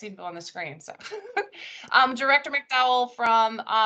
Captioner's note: laughs